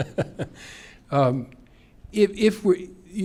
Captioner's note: laughter